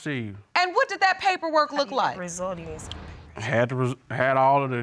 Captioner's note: mumbling